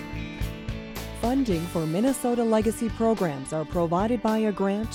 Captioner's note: voiceover